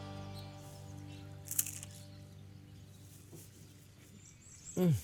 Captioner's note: crunching